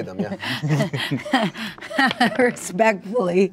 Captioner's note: laughs